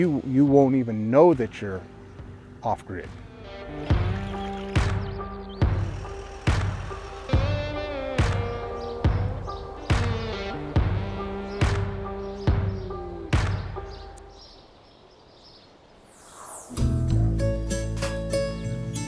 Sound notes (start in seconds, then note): 3.9 upbeat music; 5.4 birds chirping and chittering; 16.7 energetic music